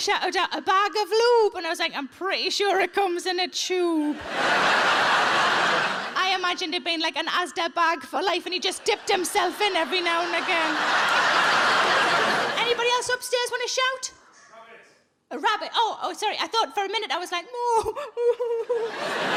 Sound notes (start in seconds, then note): 4.1 audience laughs; 11.0 audience laughs